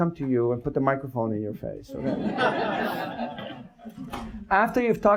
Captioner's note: audience laughs